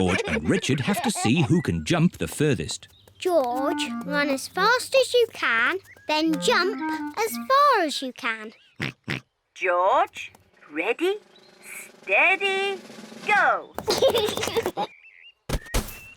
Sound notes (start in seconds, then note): 9.1 snorts; 13.8 laughs